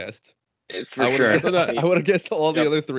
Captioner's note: laughter